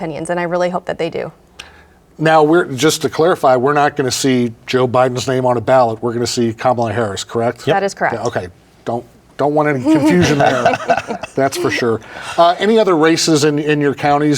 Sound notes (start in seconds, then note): 9.8 both laugh